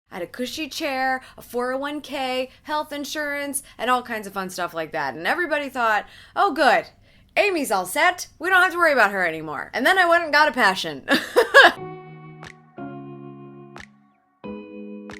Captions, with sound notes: - I had a cushy chair, a 401K, health insurance, and all kinds of fun stuff like that. And everybody thought, oh good, Amy's all set, we don't have to worry about her anymore. And then I went and got a passion (laughs). (mellow R&B music)